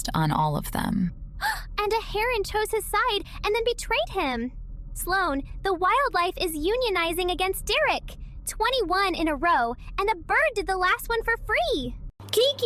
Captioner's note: gasp